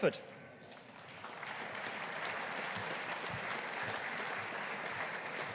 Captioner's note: audience applauding